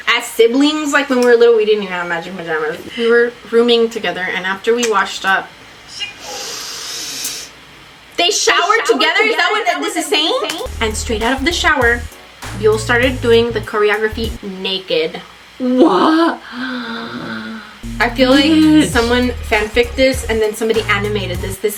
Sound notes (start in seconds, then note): 6.2 inhales; 8.2 echoing; 15.7 gasps